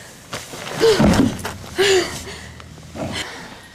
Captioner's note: failing Sound